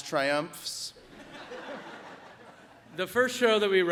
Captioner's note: audience laughs